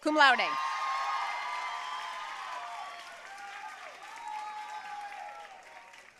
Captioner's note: audience cheering and applauding